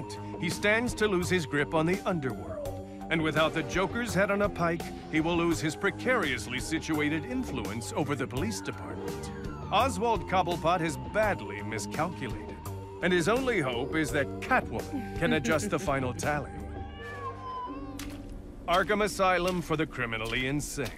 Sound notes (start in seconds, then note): 16.4 footsteps splashing; 16.5 cat meows